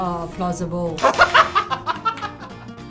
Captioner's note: laughs